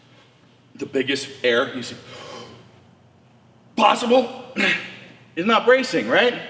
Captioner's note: inhaling